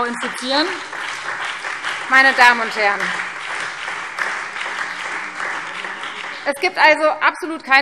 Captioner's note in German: Beifall Freie Demokraten, SPD und vereinzelt DIE LINKE